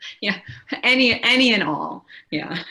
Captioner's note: laughs